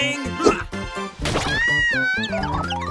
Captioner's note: clover screams